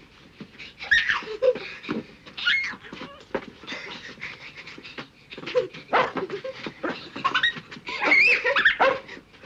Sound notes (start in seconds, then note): 0.9 girls laugh; 5.6 jack barking